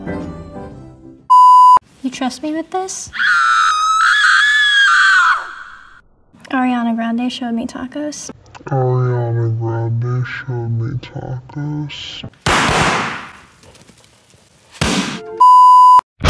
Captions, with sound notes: You trust me with this? *scream* Ariana Grande, show me tacos AARRIIAANNAA GGRRAANNDDEE,, SSHHOOWW MMEE TTAACCOOSS *explosion and scare*